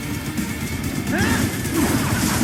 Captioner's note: Raiden yells; blows smashing